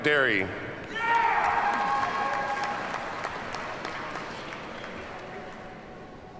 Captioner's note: audience cheers and applauds